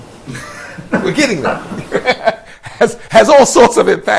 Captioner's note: laughs